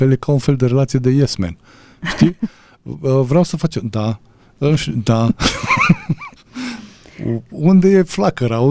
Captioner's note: laughter